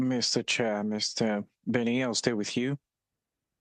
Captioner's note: speaking French